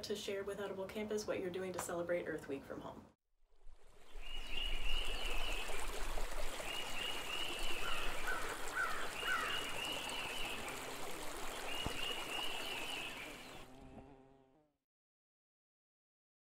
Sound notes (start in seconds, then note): 4.3 water flowing and birds chirping; 7.8 crow cawing; 10.3 bee buzzing